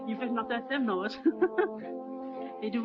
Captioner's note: laughs